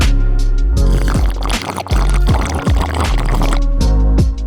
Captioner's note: slurping sounds